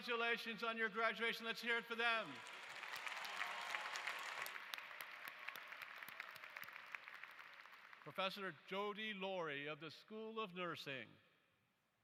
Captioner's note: applause